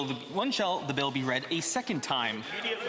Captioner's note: speaking French